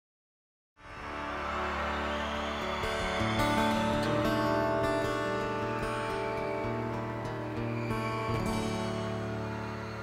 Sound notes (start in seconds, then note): 0.8 audience cheers; 2.3 gentle guitar music